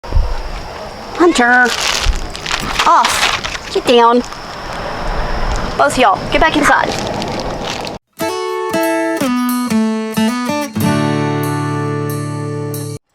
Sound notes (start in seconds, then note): 4.1 cellophane bag crinkles as it is used to swat at the cat; 8.1 guitar chords